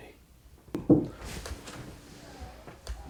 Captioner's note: knocking